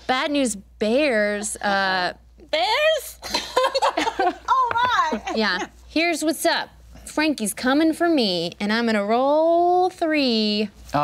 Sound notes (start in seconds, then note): 3.3 group laughter